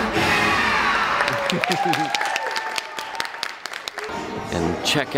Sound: audience applauding

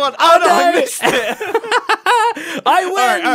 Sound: laughs

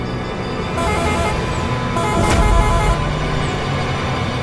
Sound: horn honking

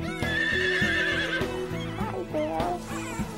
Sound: horse whinnying

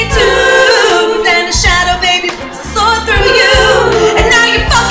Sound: ooh; ooh

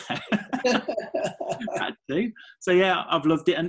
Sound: laughing

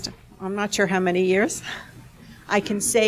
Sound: laughs

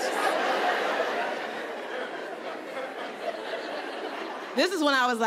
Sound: audience laughing

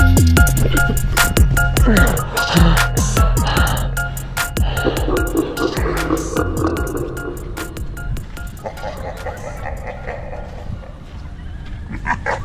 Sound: laugh

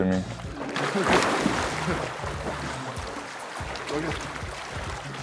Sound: water splashing

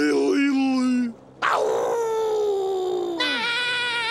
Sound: howling; yelling

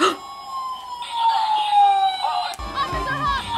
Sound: toy police siren wailing

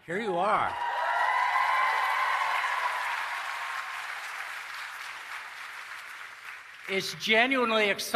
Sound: applause and Cheering

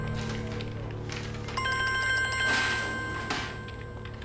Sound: phone is ringing

